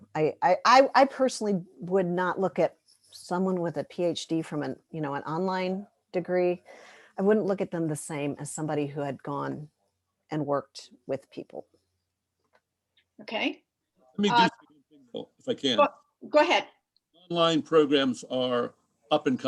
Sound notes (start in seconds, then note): 14.2 distorted mic